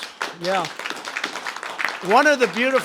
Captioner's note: applause